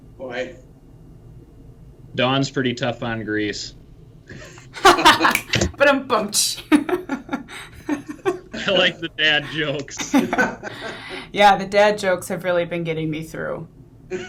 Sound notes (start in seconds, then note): 4.7 all laughs; 6.6 laughs